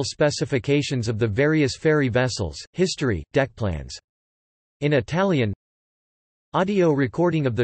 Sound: in Italian

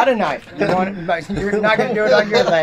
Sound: laughing; laughs

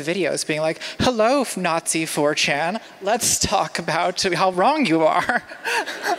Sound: laughter

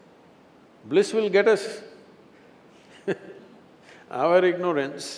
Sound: laughs

